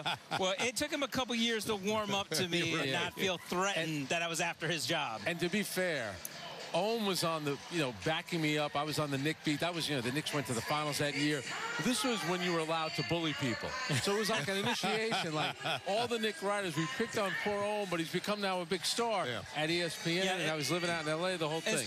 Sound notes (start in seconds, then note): 2.2 laughter